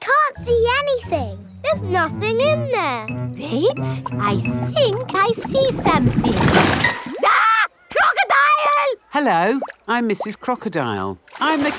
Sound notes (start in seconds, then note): 7.2 screams